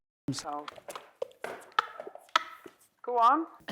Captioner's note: laughs